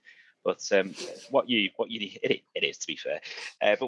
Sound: laughs

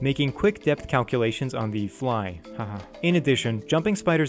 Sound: haha

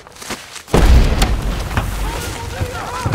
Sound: explosion

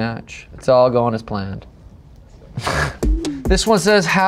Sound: laughs

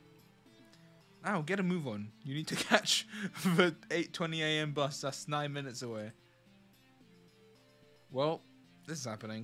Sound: laughs

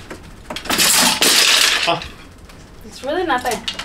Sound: hangers crashing

